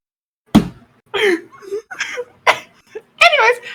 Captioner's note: laughter